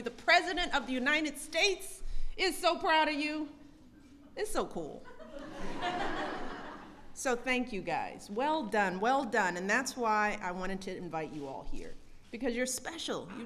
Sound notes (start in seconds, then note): 5.0 laughter